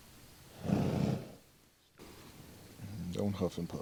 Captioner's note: Star snorts